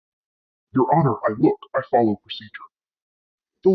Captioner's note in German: verzerrt